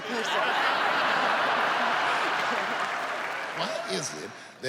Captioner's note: audience laughs